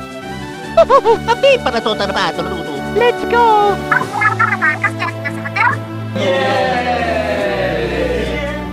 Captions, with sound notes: Ho ho ho! [Italian gibberish] Let's go! [Inkling gibberish] YAYYYY!